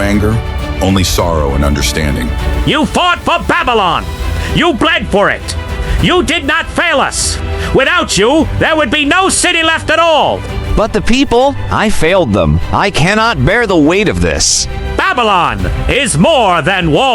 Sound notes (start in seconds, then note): 2.2 quiet but firm; 10.5 anguished